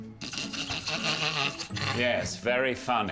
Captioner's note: laughing